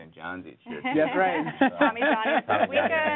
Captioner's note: laughs